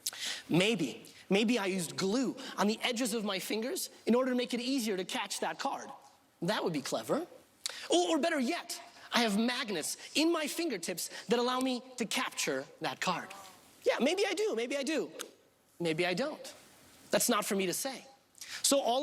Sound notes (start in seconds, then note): none